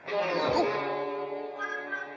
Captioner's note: playful music; groans; playful music